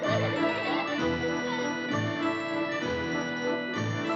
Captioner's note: children Giggling